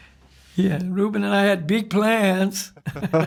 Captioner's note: laughs